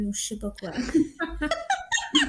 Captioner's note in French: Rires